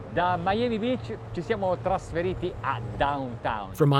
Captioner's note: speaks Italian